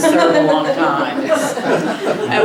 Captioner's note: laughter